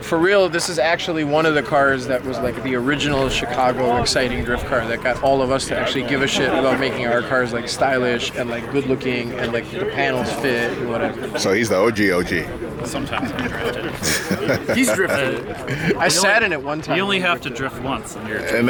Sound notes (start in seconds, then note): 13.0 laughs